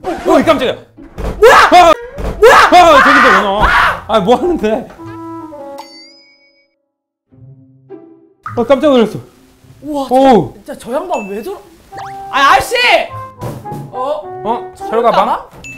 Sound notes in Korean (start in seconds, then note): 1.0 문 소리 한 번에